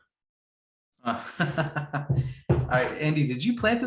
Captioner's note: laughs